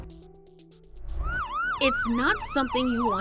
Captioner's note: siren wailing